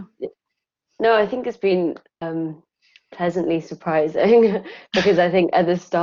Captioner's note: chuckling